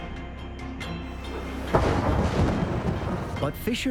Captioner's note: explosion echoes